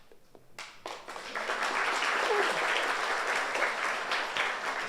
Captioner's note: audience applauds